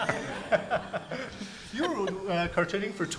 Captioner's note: audience laughs